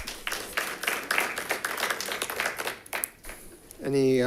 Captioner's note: audience claps